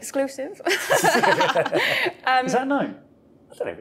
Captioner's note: everyone chuckling